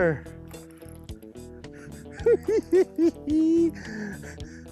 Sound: giggling

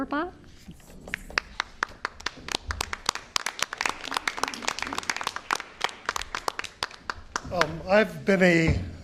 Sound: applause

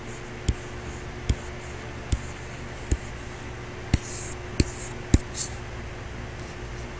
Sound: computer mouse tapping; faint techno music

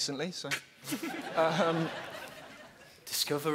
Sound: laughing

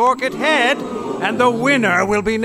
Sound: crowd "oohs" and "ahhs"

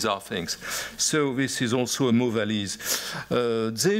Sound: french

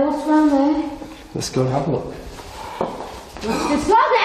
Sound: breath hisses

